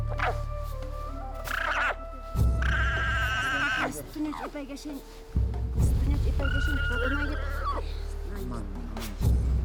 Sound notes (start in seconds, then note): 2.3 llama braying; 3.9 speaking Quechuan